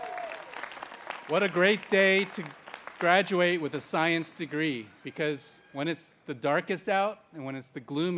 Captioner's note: applause